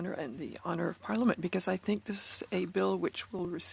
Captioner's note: speaking French